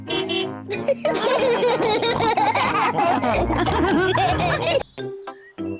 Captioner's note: car horn beeps; all laugh